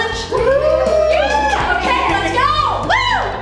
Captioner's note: all cheer